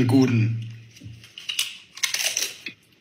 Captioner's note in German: Knacken